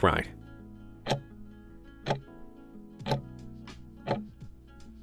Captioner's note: timer ticking